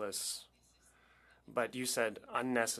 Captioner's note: speaking French